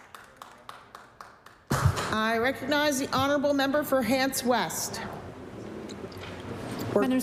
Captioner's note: applause